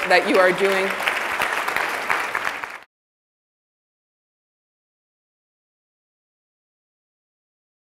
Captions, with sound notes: that you are doing. (applause)